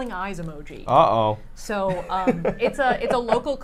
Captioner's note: laughs